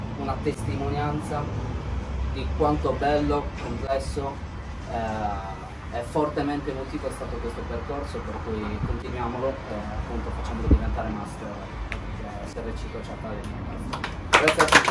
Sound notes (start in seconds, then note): 13.9 applause